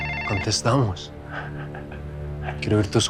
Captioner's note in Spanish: Suena el teléfono